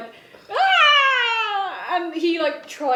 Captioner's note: screams